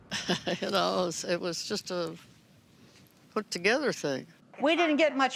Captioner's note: chuckling